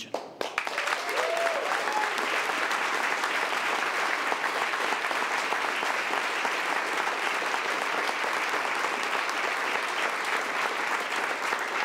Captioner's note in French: Applaudissements